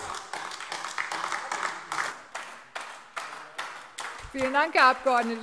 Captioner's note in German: Beifall AfD